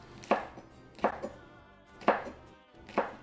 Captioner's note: chopping